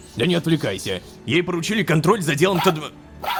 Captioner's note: robodog barking